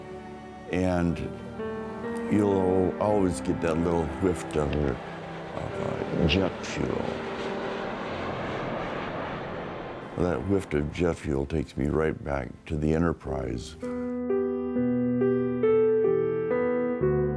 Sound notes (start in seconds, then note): 5.6 plain engine revs; 14.2 soft piano music